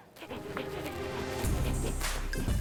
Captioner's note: panting; upbeat techno music